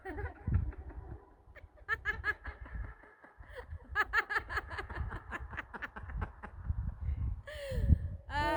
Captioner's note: laughter